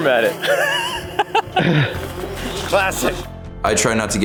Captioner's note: embarrassed laughter